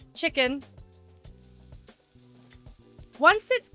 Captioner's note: chicken sizzling